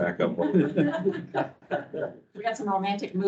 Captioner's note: people laughing